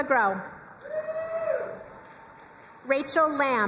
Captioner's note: crowd cheering and applauding